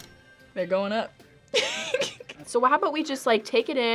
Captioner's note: laughs